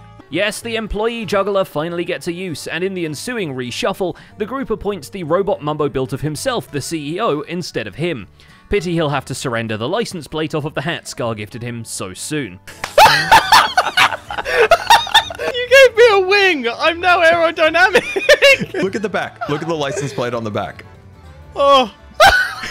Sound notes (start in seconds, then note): 12.9 mic-peaking laughter; 22.1 laughs